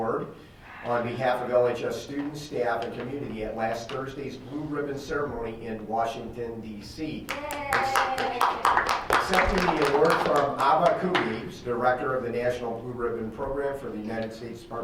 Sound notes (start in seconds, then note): 7.2 clapping; 7.4 member cheering